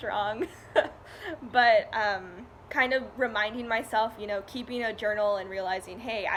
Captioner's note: laugh